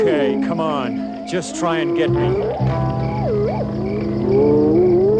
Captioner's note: hyenas howling